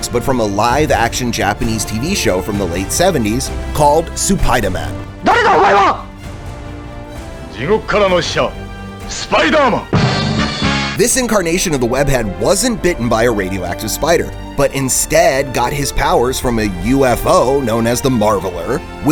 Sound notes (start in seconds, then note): 5.4 speaking in Japanese